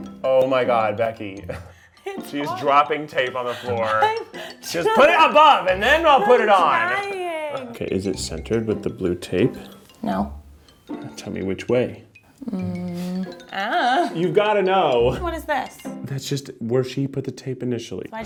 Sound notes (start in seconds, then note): 0.0 playful music; 6.8 laughs